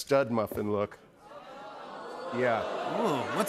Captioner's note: audience "Oohs"